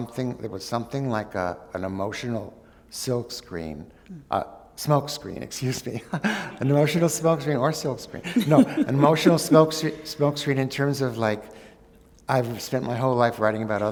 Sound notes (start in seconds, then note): 8.2 laughter